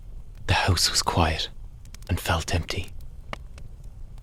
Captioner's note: hushed Tone